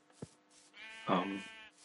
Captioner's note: baaaa